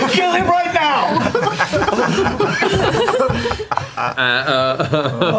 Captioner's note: laughter